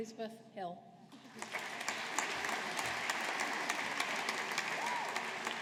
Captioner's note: audience applauding